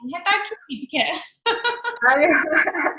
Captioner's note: laughing